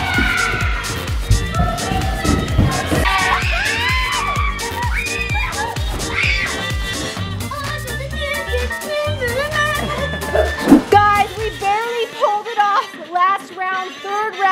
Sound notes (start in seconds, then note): 0.0 footsteps running; 3.4 kids screaming